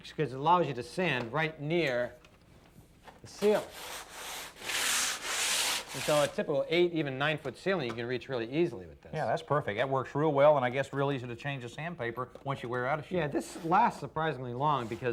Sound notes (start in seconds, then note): 3.3 scratching